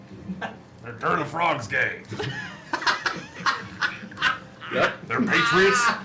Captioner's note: laughter